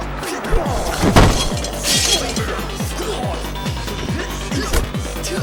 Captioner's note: glass shattering; exciting beat music